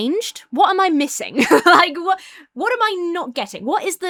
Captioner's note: laughs